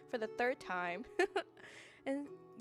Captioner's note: giggles